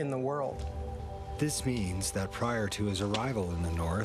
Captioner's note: voiceover